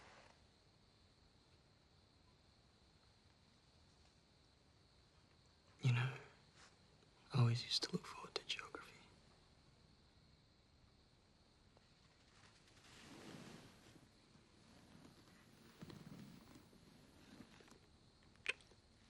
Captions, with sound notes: (WHISPERS) You know, I always used to look forward to Geography.